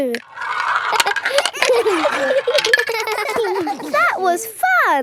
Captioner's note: all giggling